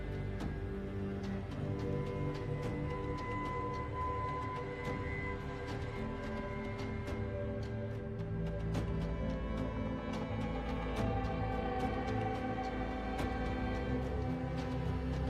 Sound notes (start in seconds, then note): none